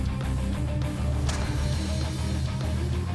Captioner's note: ice shattering